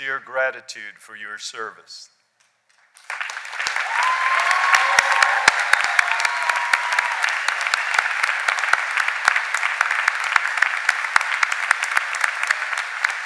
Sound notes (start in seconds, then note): 5.6 cheers and applause